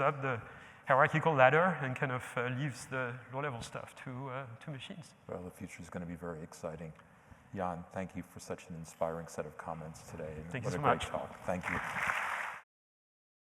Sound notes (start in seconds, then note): 11.4 applause